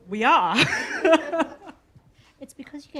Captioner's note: laughter